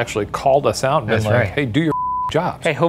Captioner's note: beep